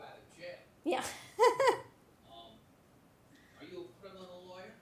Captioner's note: chuckles